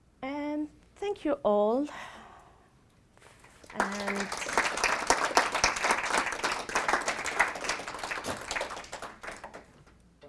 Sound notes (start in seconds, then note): 5.1 applause